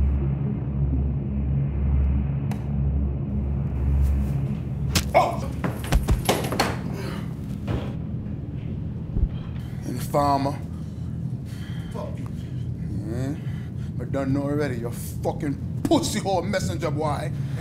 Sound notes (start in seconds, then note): 5.1 grunts; 5.2 knife squelches